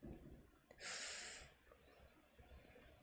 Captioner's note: sharp inhale